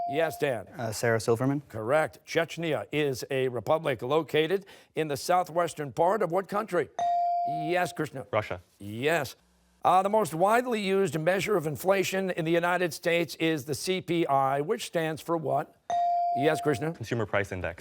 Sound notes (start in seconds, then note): none